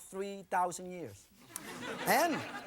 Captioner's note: audience laughing